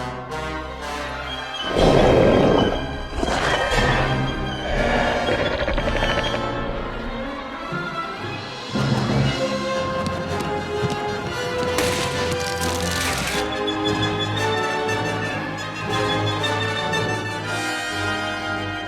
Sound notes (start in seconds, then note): 1.6 growling